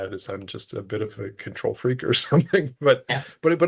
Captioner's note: chuckling